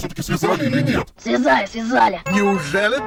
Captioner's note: speaks in a terribly hoarse voice